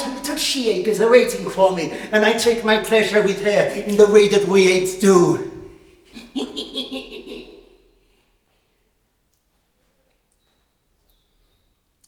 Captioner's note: chatters unguardedly